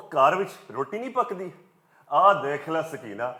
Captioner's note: in Punjabi